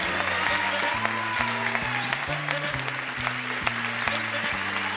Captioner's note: applause and cheering; lively music